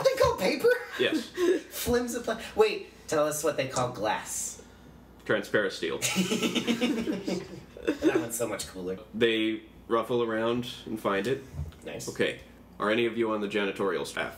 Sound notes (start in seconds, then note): 6.0 giggles